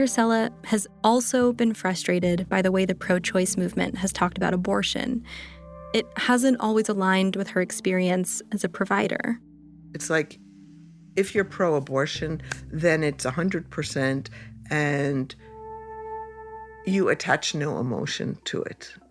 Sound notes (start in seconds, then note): 12.4 claps